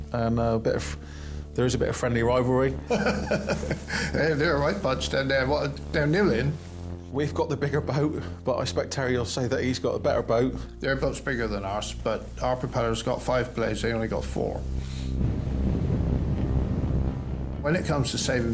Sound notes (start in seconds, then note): 2.9 laughs; 15.8 tense music